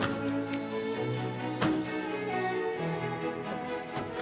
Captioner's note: door opens; doors slam